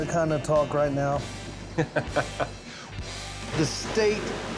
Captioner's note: laughs